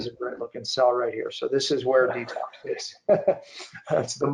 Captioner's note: chuckling